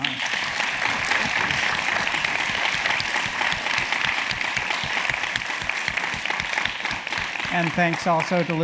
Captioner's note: applause